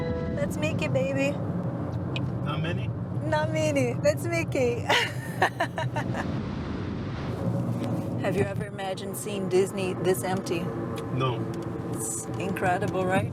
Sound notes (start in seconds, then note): 4.9 laughs